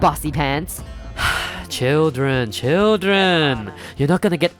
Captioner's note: sigh